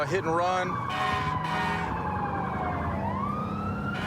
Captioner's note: emt sirens blaring